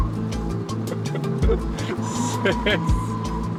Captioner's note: laughing